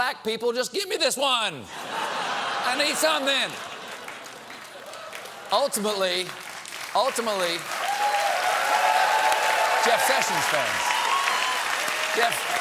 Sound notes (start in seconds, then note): 4.3 laughter; 6.3 applause; 6.3 cheers and applause